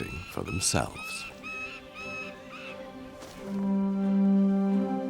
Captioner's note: falcon cries